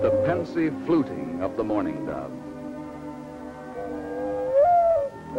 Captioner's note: mourning dove song